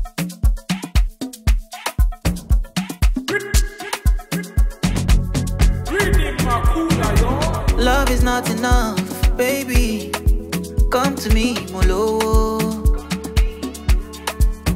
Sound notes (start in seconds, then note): 6.0 speaking a foreign language